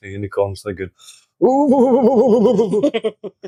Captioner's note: bear makes chittering noise